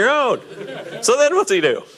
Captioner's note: audience laughing